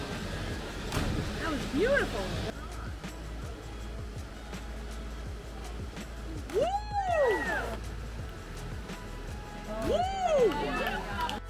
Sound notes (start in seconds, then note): 2.9 gentle music; 6.8 people cheering